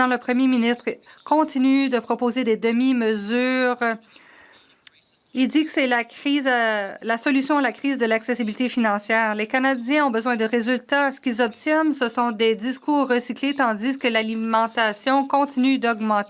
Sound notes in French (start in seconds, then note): 2.2 voix de l'interprète